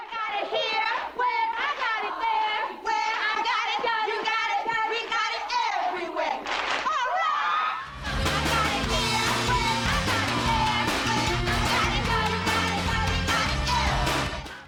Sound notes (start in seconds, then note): 6.5 clap clap; 6.8 cheering